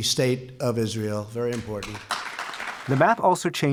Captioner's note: applause